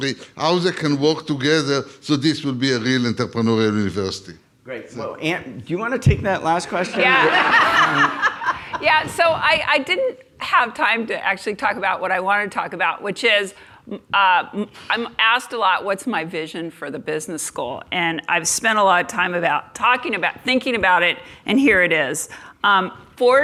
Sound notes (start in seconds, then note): 6.8 laugh